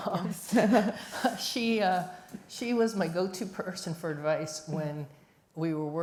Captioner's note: laughs